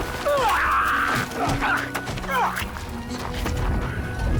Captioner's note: groaning